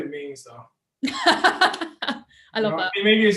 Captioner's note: laughs